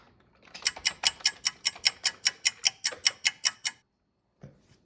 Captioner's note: ticking clock